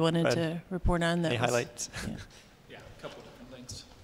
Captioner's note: laughter